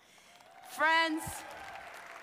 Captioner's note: applause